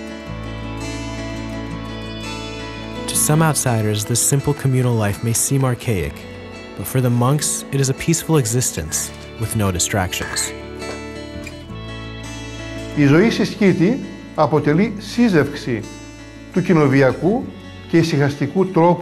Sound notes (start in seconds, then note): 0.6 bright guitar music; 12.9 speaks in foreign language